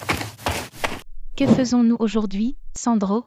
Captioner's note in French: FX - Footsteps - On Multiple Dirt - Run; FX - Whoosh - 03